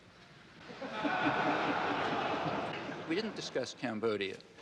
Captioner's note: audience laughing